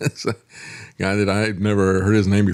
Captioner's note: laughs